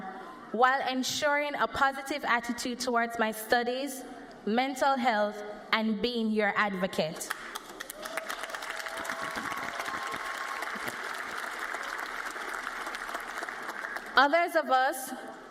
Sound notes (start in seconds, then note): 5.3 cheers and applause